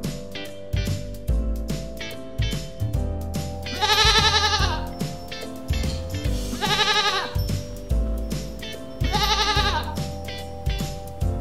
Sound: goat Sound

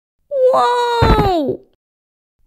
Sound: thud!

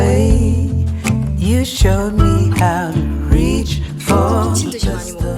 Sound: boo-hoo-hoo

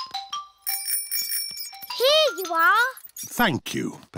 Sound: bell rings

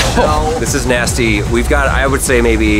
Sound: coughs

